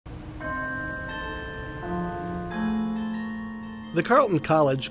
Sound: bells ringing

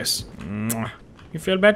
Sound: mwah

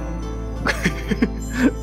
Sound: chuckle

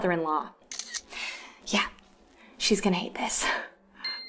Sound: shutter sound

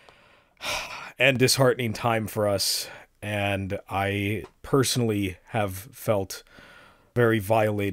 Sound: sigh

